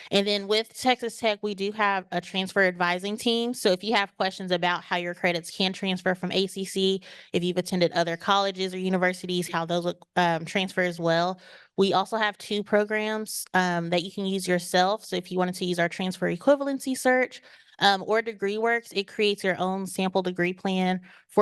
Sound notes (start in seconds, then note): none